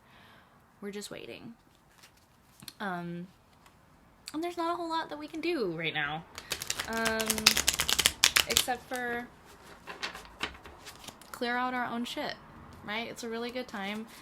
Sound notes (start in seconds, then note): 6.4 shuffling